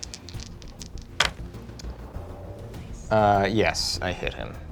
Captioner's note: dice clattering